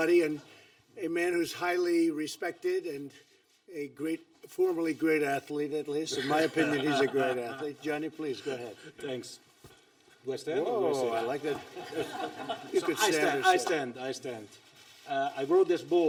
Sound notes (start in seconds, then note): 6.1 laughter; 11.4 laughter